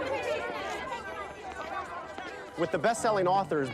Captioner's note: reporters clamoring